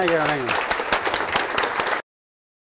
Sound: applause

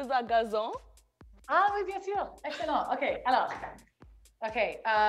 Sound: speaking French

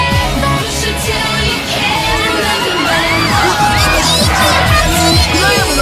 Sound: fan Mob Screams

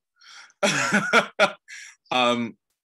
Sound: laughs

